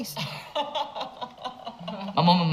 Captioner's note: both laughing